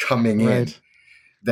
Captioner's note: laughs